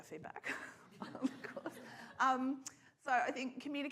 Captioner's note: laughs; scattered laughter